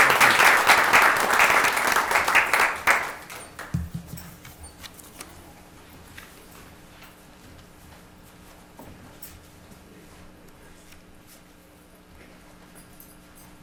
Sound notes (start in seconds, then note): 0.0 applause